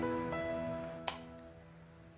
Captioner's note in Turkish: Lamba açma sesi